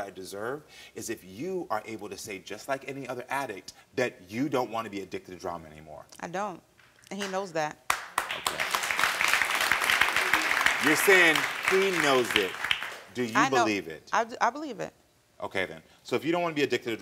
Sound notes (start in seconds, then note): 7.9 audience applauding